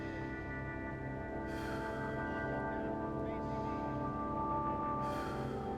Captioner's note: breathes deeply